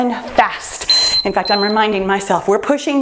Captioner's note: timer beeps